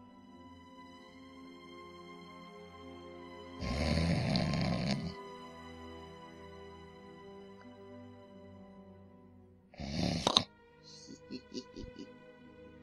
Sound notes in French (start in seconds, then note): 3.6 ronflement; 9.7 ronflement; 10.9 ricanement